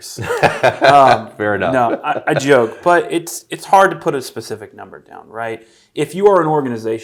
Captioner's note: laughing